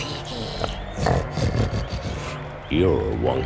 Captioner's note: snorting